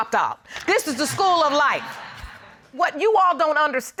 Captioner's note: audience laugh